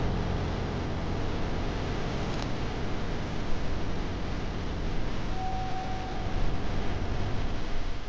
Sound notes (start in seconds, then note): 5.4 doorbell rings